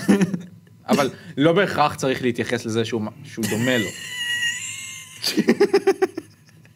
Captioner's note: snickers; snickers